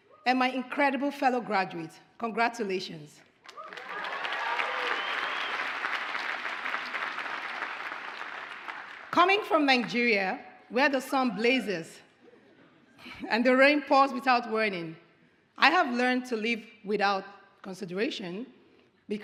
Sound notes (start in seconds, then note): 3.4 audience applauds